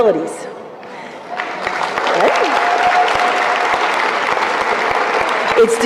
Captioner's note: applause